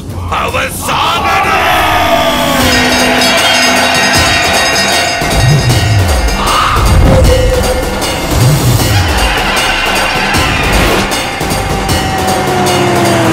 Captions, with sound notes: He has to die! (Bell rings)